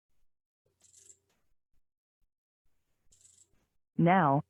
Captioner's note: electronic rattlings